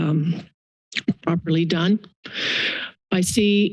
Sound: tongue clicks

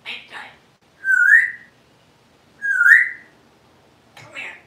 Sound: whistling

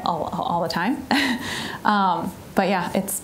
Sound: chuckling

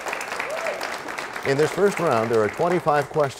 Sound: applause

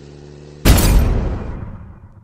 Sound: crash!!

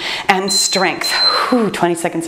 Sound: timer beeps

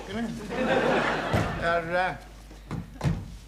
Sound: audience laughing; door shuts

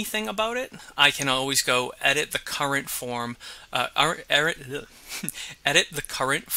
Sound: chuckles

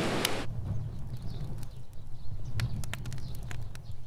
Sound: crackling wood sound

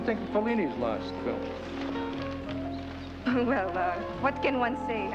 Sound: chuckles

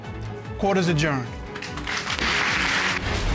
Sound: audience applauding

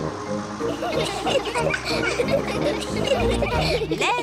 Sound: all giggle

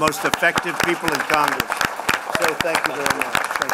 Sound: applause

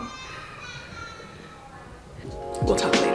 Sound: baby crying

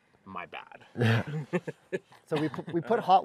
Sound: laughter

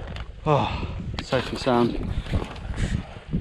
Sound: softly sighs

